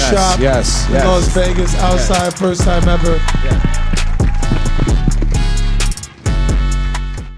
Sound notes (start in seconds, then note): 4.3 audience clapping and cheering; 6.1 mellow hip hop music